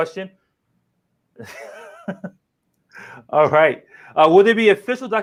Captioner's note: laughs